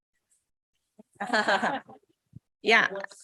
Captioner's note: laughs